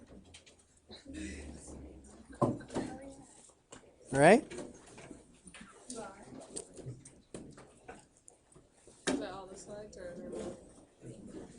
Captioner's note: general chatter